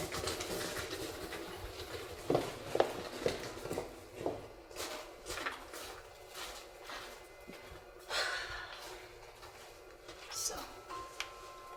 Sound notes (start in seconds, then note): 8.1 sighs